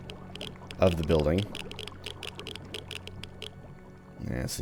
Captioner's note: geiger Counter clicking